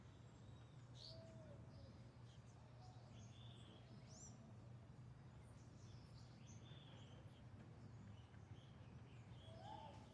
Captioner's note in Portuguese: canto dos pássaros